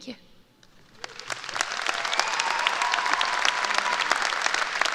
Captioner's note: applause